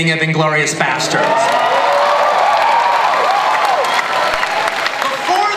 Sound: audience cheering

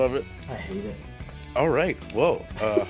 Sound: laugh

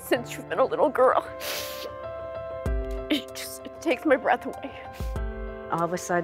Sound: sniffs

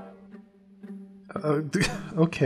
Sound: sounds of confusion

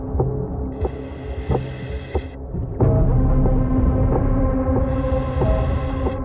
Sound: chilling music continuing; oxygen tank whooshing

